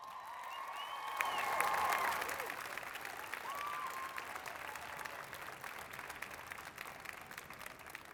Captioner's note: applause